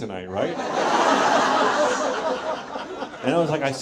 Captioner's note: audience laughs